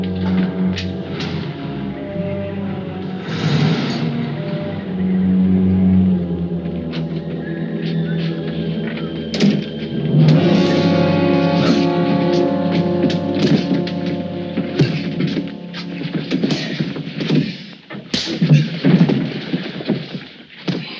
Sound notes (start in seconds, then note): 0.2 dramatic orchestral music; 10.3 suspenseful orchestral music; 12.0 Joe grunts; 18.2 punch thuds